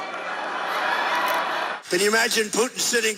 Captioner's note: audience laughing